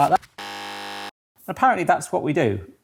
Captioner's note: buzzer buzzes